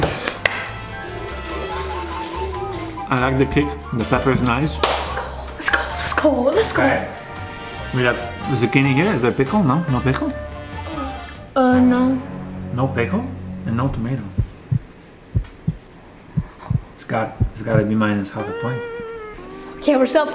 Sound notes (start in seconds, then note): 0.1 claps; 0.1 quirky music; 4.8 claps; 11.9 tense music; 15.3 heartbeat pumps; 18.3 somber music